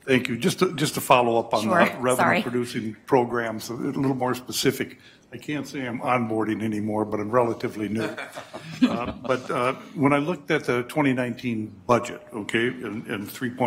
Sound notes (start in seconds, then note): 7.9 laughter